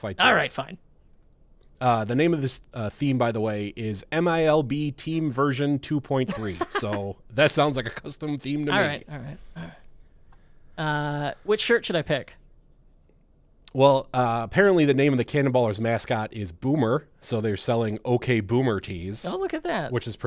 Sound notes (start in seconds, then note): 6.2 laughs